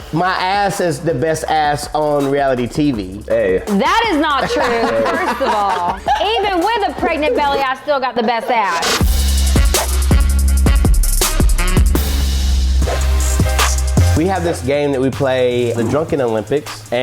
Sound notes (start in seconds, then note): 3.8 laughing; 9.0 upbeat music